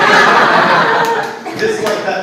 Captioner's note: audience laughs